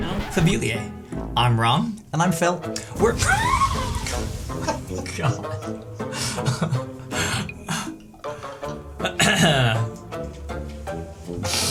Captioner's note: record scratch